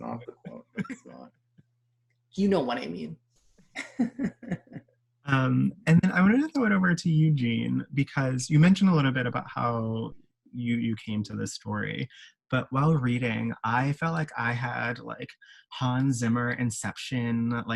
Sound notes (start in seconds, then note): 3.8 both laughing